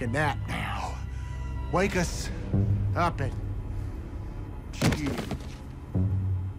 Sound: body thuds

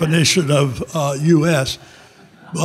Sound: audience laughing

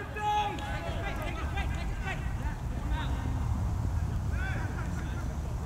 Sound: players talking and yelling

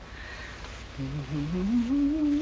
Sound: resumes humming

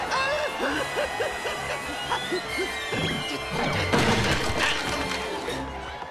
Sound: gasping

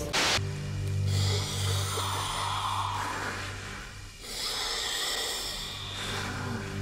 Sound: electronic music; slow dramatic music; static hisses; breathes deeply

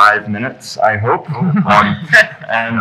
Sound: laughing

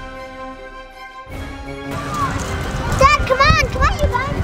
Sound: running

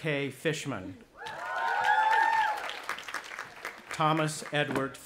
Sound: audience applauding and cheering

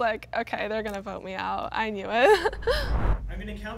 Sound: laughs

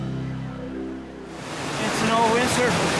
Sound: river roaring

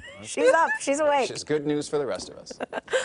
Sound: laughing

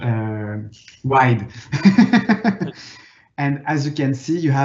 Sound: laughing

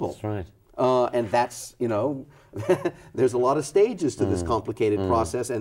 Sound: laughs

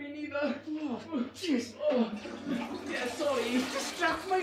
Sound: groaning

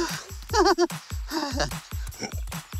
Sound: duo chuckles; duo grunting

